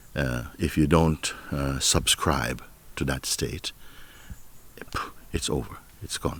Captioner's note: sharp exhale